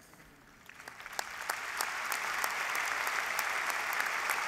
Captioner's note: applause